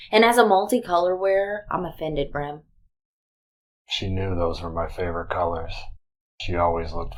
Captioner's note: none